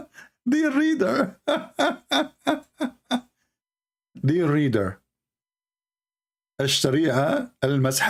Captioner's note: Ketawa